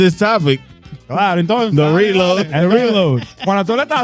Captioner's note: speaking In Foreign Language